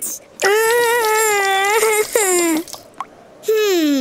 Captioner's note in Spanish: llora